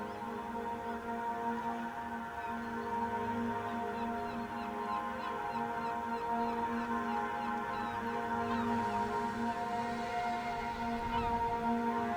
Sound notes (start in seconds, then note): 5.9 birds sounds